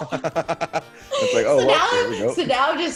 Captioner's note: laugh